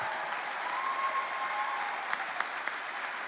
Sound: cheering

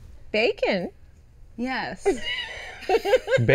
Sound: Genesis laughs

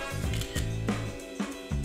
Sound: camera clicking; upbeat band music

